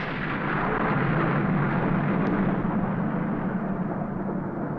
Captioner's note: thunder crashes